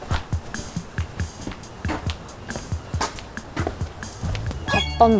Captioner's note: heavy walking